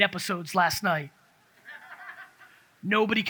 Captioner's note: audience laughs